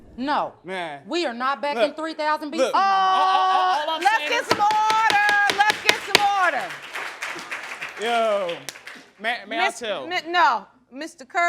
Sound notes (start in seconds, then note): 7.2 audience applauding